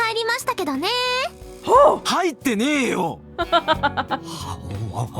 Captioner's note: chuckles